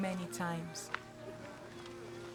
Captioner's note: footsteps on grass